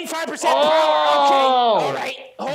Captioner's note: yelling